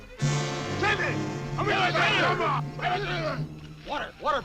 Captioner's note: men shouting